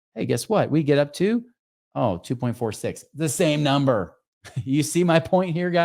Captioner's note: chuckles